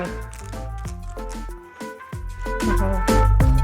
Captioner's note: light crunching